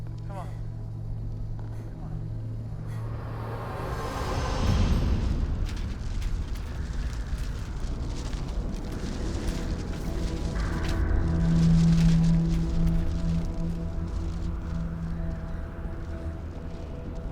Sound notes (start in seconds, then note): 4.6 debris rustling; 4.6 wind whistling